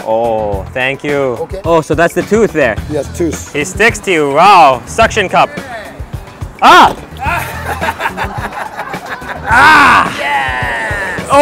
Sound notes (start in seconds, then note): 7.2 chef laughs